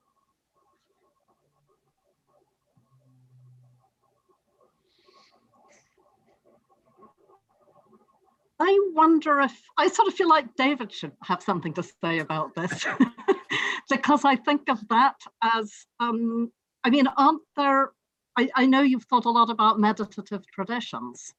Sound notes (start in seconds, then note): 12.1 laughs